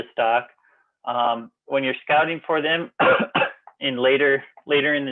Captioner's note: coughs